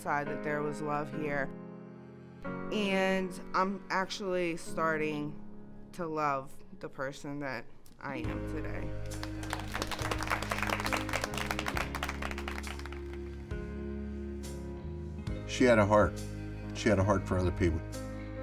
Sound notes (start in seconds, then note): 9.1 applause